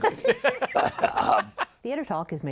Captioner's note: laughter